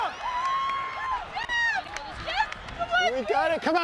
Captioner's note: cheering